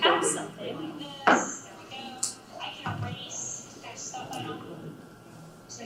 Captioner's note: computer Voice